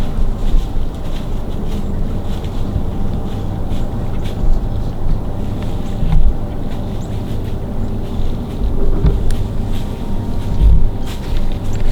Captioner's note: sound of walking in leaves